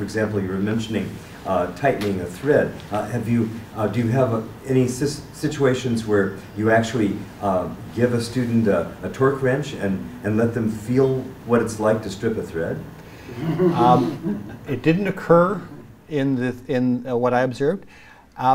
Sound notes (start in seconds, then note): 13.4 laughter